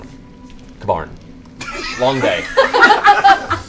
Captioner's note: laughter